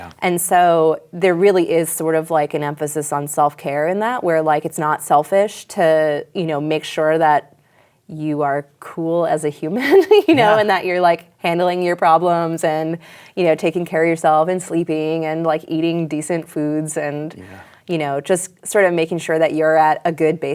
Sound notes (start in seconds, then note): 10.2 laughs